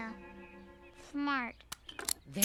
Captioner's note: locks click